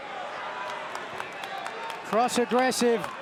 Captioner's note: person in sunglasses claps